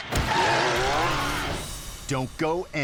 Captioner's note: dramatic music; motorcycle skidding